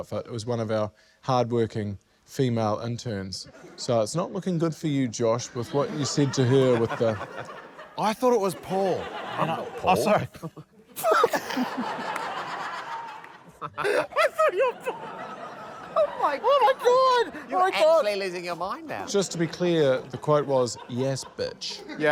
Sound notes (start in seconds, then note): 12.9 laughter; 13.4 laughs hysterically